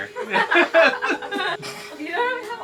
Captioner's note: all laughing